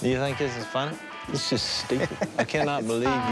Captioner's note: laughs